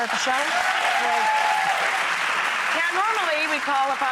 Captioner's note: audience cheering and clapping